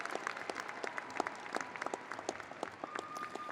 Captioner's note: audience applauding